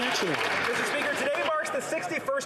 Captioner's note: some Applause